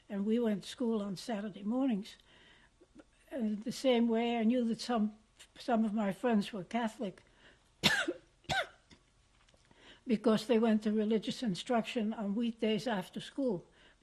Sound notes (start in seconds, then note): 6.9 pauses for 3 seconds